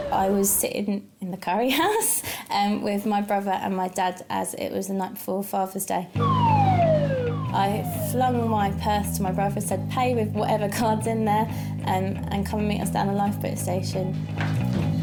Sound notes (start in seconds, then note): 6.2 dramatic rock music; 6.2 alarm wailing; 14.7 dramatic rock music